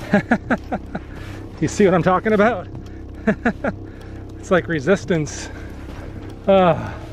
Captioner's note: laughter